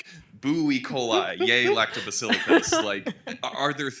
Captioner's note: laughing